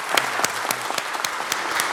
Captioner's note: applause